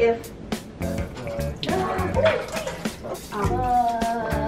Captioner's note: water splashing